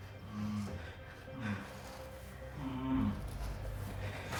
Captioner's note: bound man groaning